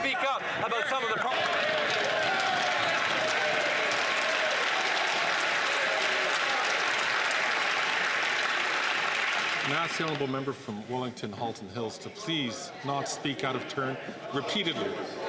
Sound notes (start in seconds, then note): 5.3 some Applause